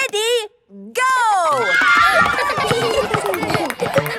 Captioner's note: kids screaming; laughter